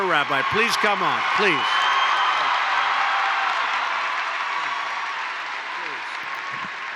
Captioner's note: applause